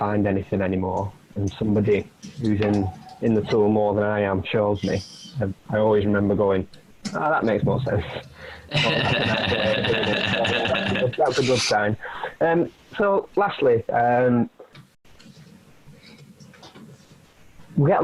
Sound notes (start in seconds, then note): 8.6 laughing